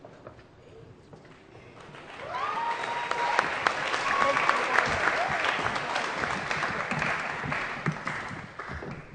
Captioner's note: applause & Cheering